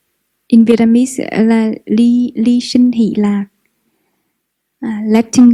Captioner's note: Vietnamese